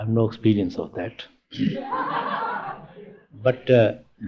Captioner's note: laughter